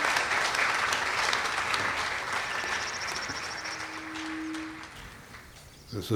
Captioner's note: applause, entwined with bird song